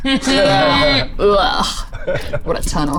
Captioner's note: Zora grunts